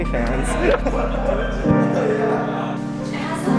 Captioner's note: laughter